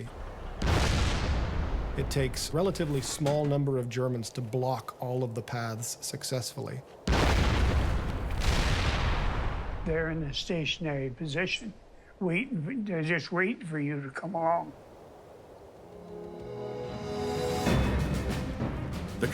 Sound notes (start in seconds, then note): 0.4 bridge exploding; 7.0 bombs exploding; 16.0 dramatic music